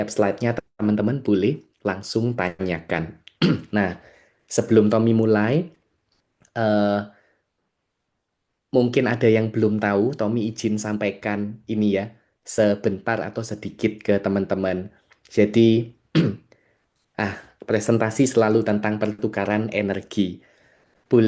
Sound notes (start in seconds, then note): 16.1 berdehem